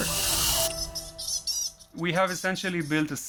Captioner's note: bat squeaking